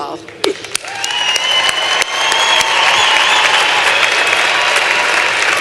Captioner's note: applause